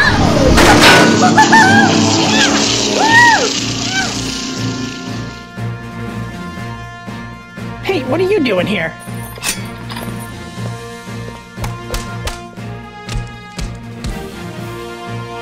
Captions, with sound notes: Wohoo hoo!!! Hey! what are you doing here? *sounds of struggle.*